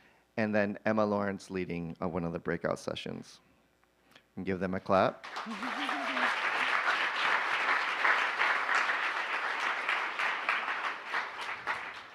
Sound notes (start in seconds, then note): 5.3 cheers, applause